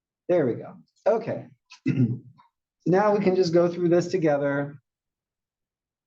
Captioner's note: cough